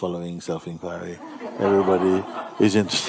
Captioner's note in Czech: smích